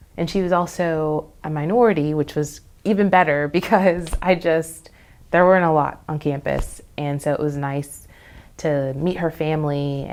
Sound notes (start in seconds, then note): none